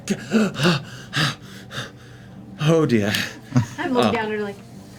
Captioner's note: gasps